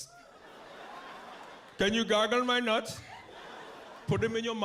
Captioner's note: east Indian accent